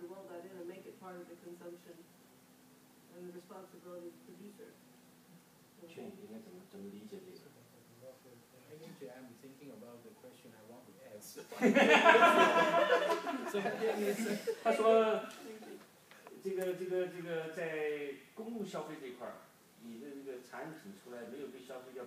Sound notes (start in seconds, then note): 6.1 speaking foreign language; 11.5 group laughs; 14.7 speaking foreign language